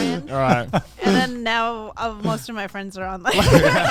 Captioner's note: men laugh